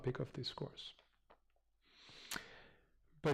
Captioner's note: pause